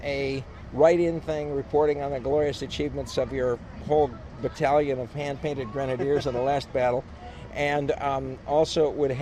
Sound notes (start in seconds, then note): 7.6 laughs